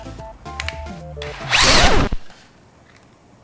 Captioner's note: record scratch